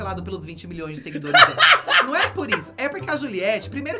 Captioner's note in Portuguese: gargalha